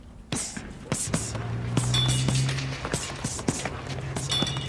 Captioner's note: sound of punching